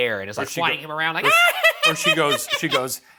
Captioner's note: cackling